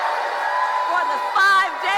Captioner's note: applause; cheering